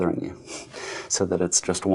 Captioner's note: nose exhale